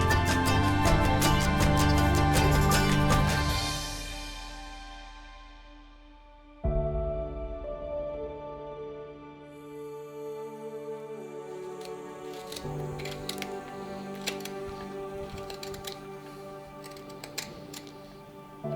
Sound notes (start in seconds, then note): 6.8 peaceful music; 12.2 tool scrapes